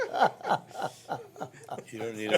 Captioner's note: laughing